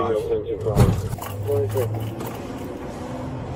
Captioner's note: radio chatter